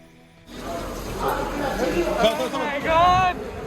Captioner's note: customers chattering